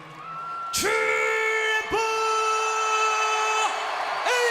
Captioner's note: crowd cheering